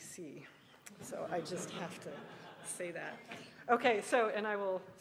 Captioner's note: laughing